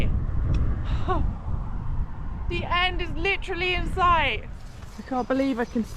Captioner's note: lil relieved sob